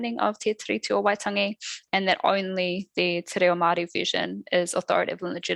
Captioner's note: non-english speech; non-english speech